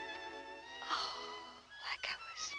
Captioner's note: sighs; whispers